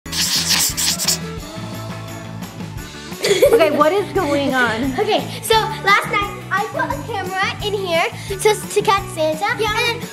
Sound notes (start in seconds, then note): 0.0 metallic scratching; 1.8 upbeat holiday music; 3.2 laughing